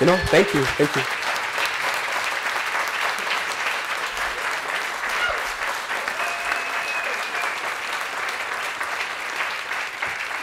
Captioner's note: applause